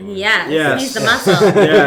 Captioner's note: laughing